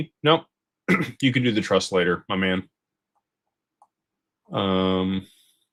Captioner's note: clears throat